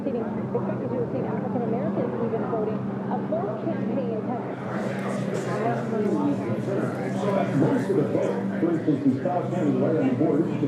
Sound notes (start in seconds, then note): 4.5 people chattering; 4.8 soft music